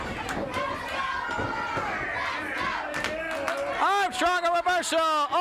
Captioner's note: crowd chants "Let's go Bob, let's go"